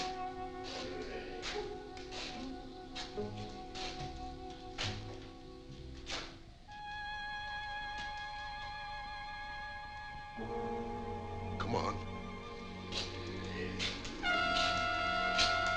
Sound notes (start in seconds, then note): 0.6 Larry growling; 12.8 Larry growling